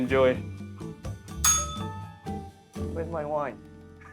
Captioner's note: bell rings